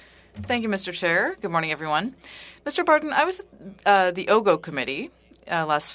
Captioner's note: speaking French